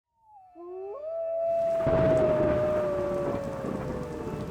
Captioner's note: thunder rumbling